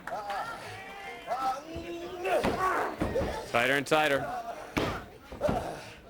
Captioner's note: crowd chatter